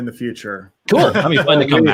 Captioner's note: laughs